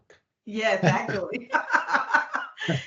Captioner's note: laughing